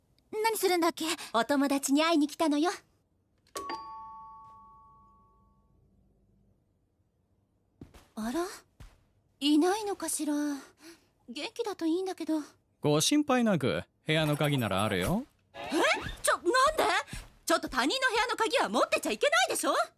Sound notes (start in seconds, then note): 3.6 doorbell rings